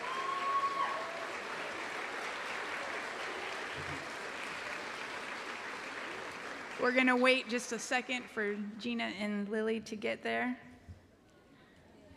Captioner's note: cheering and applause